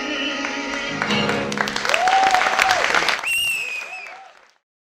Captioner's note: audience cheers